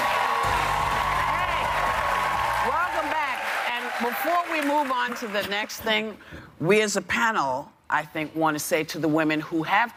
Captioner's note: cheers and applause